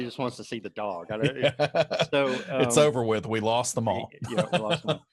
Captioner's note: laughs